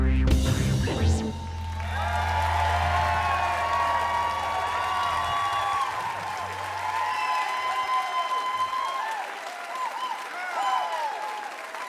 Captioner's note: applause